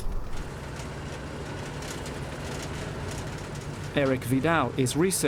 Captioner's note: vehicle rumbling